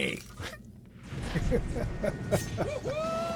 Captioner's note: laughs